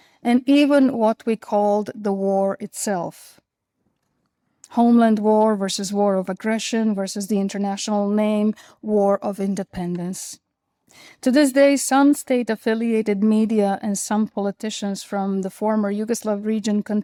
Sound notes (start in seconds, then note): none